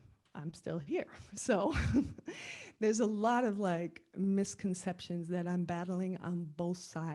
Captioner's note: laugh